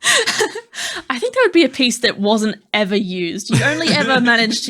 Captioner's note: laughing